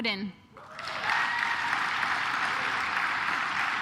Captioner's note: claps